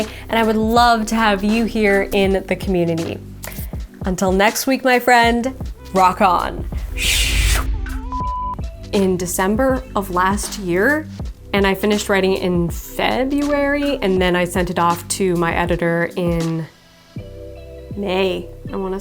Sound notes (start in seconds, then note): 7.7 beeping